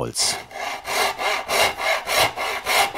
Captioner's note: sound of sawing